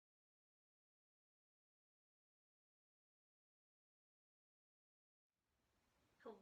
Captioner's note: silence